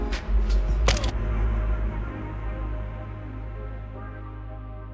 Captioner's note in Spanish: chasquidos de cámara